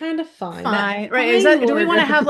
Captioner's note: laughs